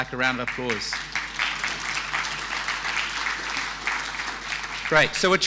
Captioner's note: audience applauding